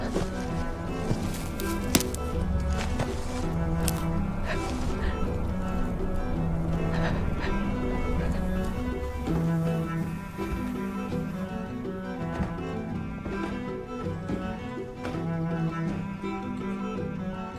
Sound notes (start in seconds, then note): 1.8 branch breaks; 4.2 June breathes heavily